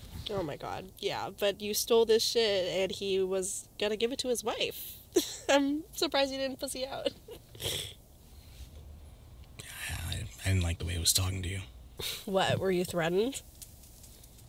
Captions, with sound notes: - Oh my god, yeah, but you stole this shit and he was gonna give it to his wife. (chuckles) I’m surprised you didn’t pussy out. (sniffles) - I didn’t like the way he was talking to you. - What, were you threatened?